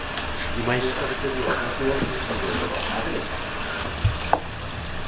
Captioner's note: laughs